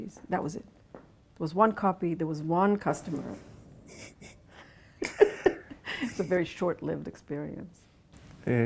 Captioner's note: laughs